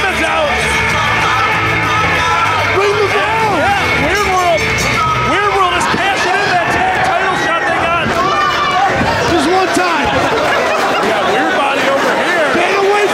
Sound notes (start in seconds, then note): 0.0 upbeat music; 4.4 bell ringing